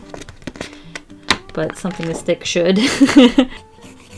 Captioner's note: laughs